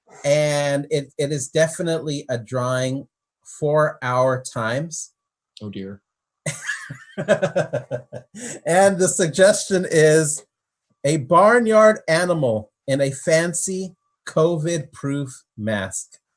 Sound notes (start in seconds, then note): 6.5 laughs